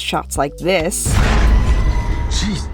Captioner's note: scary sound